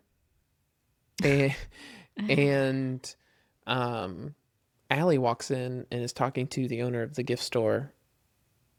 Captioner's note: laughs